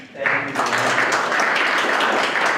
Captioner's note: all applaud